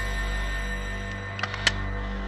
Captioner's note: click